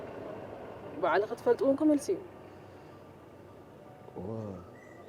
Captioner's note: silence